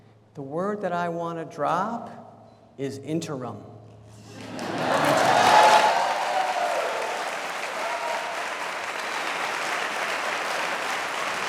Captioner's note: cheers and applause